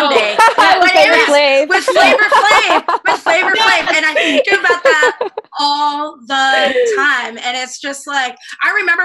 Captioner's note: laughter